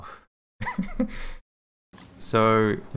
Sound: laughs

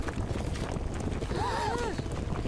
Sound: all gasp

